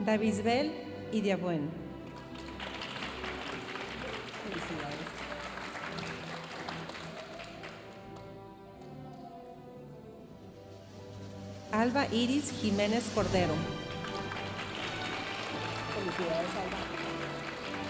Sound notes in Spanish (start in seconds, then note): 2.2 aplausos de la audiencia; 13.8 aplausos de la audiencia